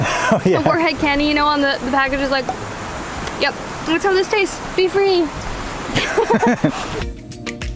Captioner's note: laughs; laughter